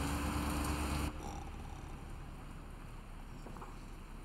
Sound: Sarah snores

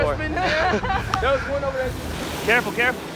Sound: all laughing

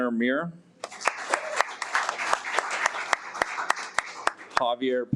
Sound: audience applauds

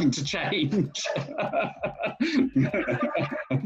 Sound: laughs

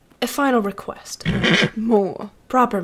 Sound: displeased neigh

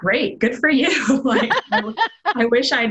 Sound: laughter

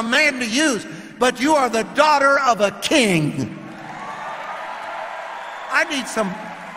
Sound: audience cheering

